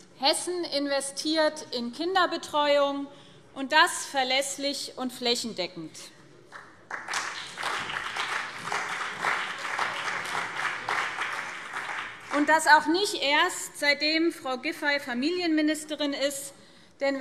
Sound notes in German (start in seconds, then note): 6.5 Beifall BÜNDNIS 90/DIE GRÜNEN und CDU